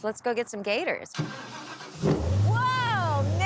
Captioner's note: engine starting